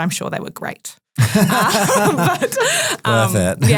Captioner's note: group laughing